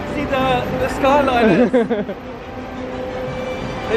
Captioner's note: laughs